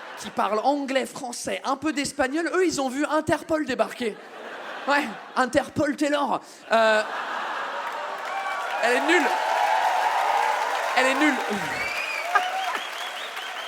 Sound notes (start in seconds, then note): 7.3 audience claps and cheers; 10.0 audience cheers and whistles